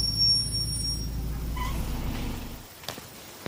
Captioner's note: rain, fireflies, and bus doors opening; rain, fireflies, and footsteps on concrete